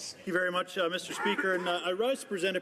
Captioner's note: speaking French